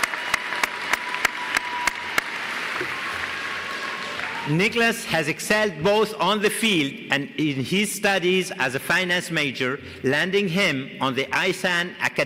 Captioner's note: applause